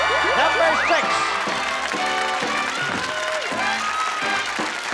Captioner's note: audience applause